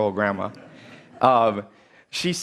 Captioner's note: laughter